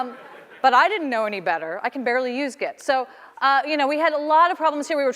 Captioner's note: laughter